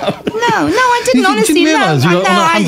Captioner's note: laughter